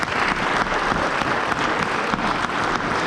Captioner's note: applause